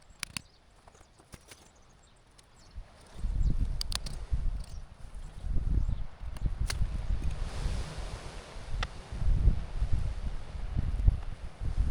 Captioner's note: wind blowing